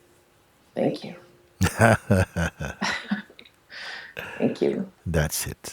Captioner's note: Mooji and questioner laugh